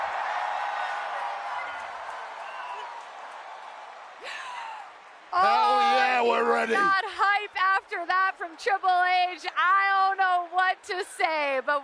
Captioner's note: applause